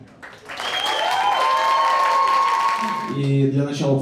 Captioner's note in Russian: аплодисменты